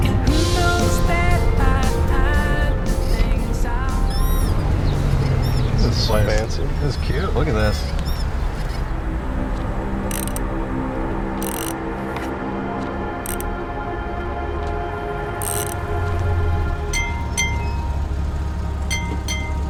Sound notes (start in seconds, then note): 9.2 tense music; 10.1 wrench clicking; 17.0 bell dinging